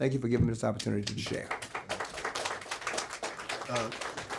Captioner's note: applause